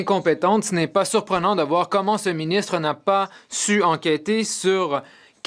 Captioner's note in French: voix de l'interprète